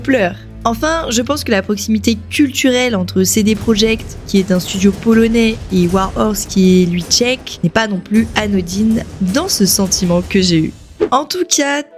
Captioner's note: Polish